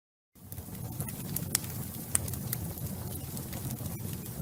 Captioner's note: fire crackling